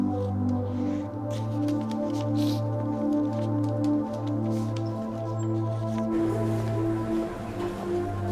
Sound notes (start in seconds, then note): 4.2 sniffling